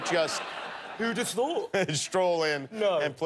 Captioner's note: laughter